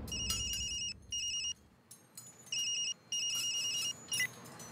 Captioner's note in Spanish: Suena celular